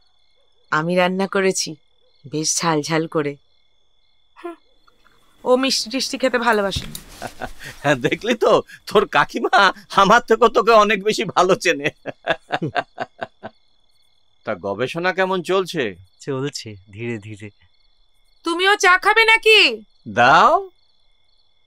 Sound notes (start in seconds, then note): 6.8 laughing; 12.4 laughing